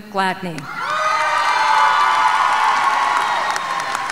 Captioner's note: audience cheering